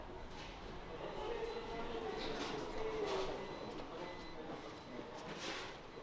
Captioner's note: people murmuring